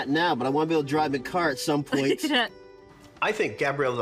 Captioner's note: laughing